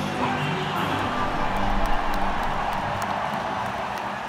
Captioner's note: crowd cheering